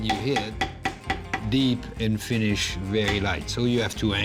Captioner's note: banging